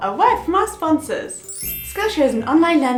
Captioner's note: magic wand sound